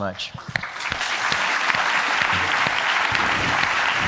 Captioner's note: applause